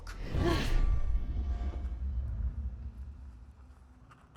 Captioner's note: dramatic swishing